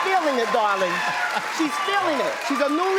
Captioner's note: audience cheers